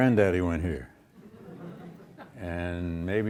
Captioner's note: audience laughs